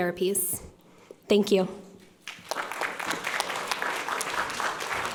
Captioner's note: audience applauds